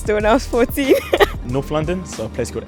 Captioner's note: laughs